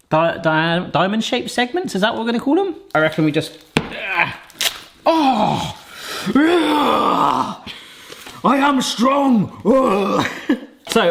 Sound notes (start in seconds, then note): 5.1 grunts; 6.3 roars; 10.1 roars